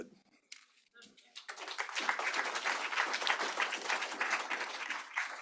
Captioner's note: applause